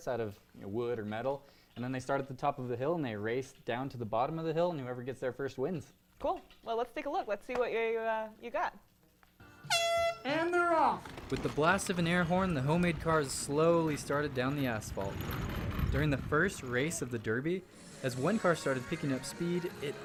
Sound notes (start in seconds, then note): 9.6 air horn blast